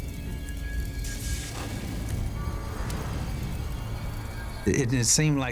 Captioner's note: flames roaring